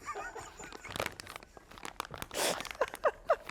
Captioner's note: laughs